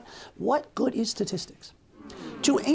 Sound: hmmm

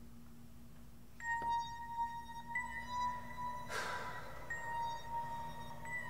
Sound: Mr. Gilroy breathing heavily; eerie music

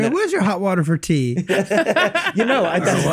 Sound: all laugh

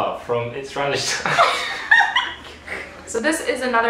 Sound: both laugh

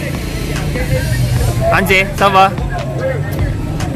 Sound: speaking in foreign language

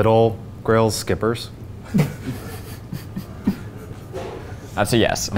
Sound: all laughing

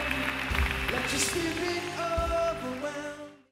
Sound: applause

